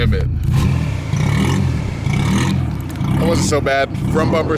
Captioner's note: engine revs